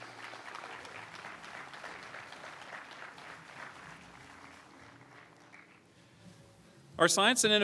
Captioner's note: applause